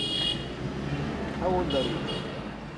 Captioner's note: speaking English